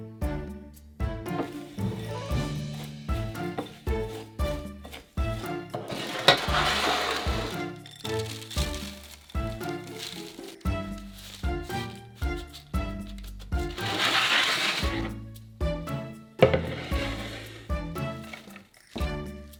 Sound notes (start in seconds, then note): 8.3 mixture dropping